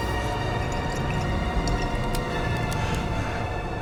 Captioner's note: wine glugging